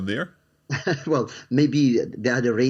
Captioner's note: chuckles